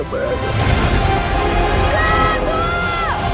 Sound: roaring

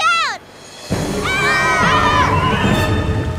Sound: screaming

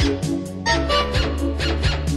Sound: honk-honk

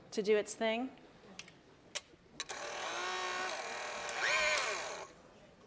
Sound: whirring

